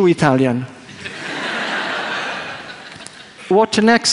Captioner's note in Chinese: 笑聲